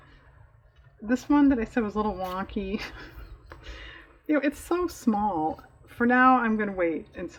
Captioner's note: laughs